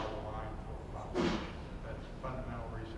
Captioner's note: sneezing